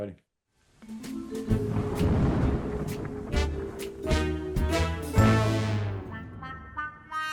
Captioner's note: upbeat music; thunder rumbling